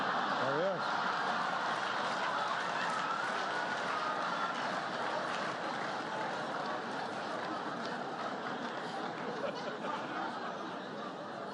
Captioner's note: laughter, applause